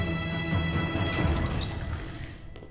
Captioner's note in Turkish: Kapı Sesi